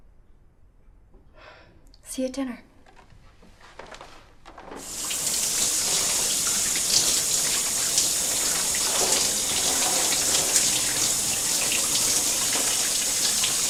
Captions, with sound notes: See you at dinner. (Shower water pattering)